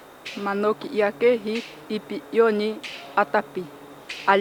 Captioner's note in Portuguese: Mulher falando Manoki